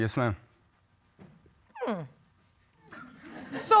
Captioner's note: audience chuckles